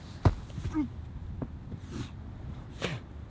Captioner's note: groan